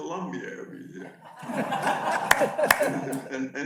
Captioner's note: audience laughs